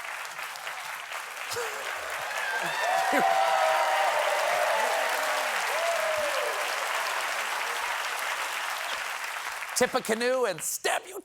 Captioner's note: laughter; cheering; applause